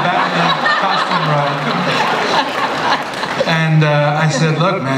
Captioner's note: laughter